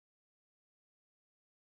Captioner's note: none